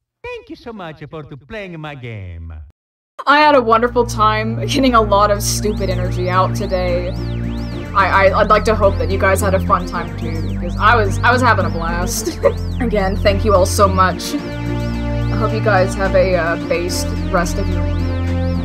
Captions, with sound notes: "Thank you so much for to playing-a my game!" I had a wonderful time getting a lot of stupid energy out today. I'd like to hope that you guys had a fun time too, because I was- I was having a blast. [laughs] Again, thank you all so much. I hope you guys have a, uh, based rest of your week,